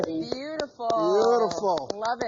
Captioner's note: clapping